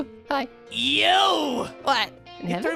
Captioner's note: stammers; fuming